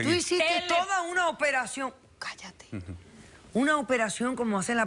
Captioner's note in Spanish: Susurra